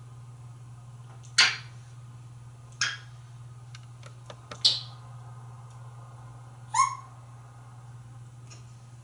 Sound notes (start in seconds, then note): 1.1 more smooches